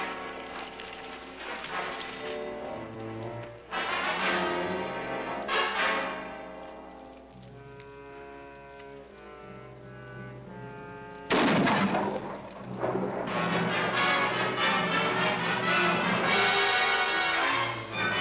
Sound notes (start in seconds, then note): 11.2 gun fires; 13.3 dramatic orchestral music